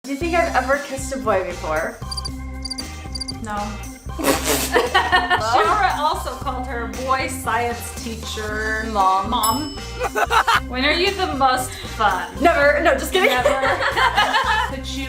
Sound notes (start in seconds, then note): 2.6 crickets chirping; 4.2 loudly laughing; 10.0 maniacal laugh; 13.2 laughs